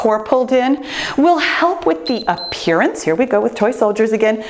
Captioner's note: timer beeps